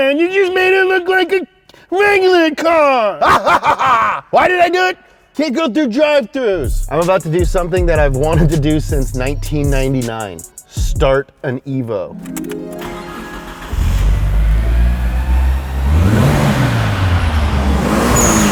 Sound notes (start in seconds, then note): 12.2 harp flourish; 13.9 car starting; 15.9 engine revving